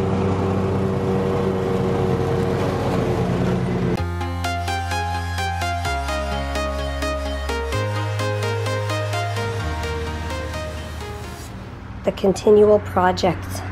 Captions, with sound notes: (mowing noise) (funky music) The Continual Project